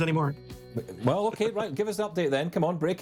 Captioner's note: chuckling